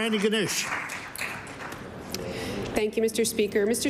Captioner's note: applause